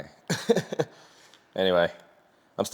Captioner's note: laugh